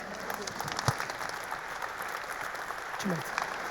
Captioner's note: audience applauding